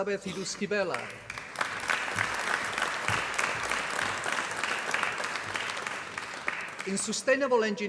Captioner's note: applause